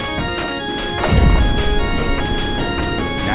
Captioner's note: bang!